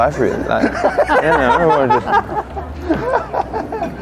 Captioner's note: laughs